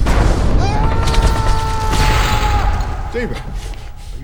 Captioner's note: gunshots whizzing; thunder claps; Stephen yells